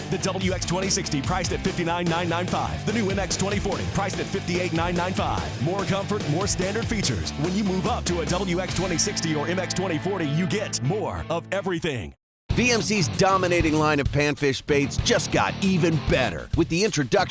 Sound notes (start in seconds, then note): 12.7 voiceover